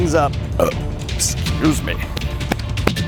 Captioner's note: burps